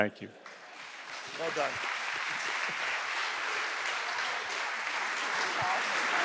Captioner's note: audience applauding